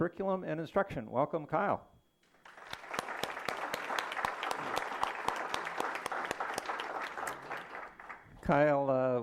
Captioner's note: applause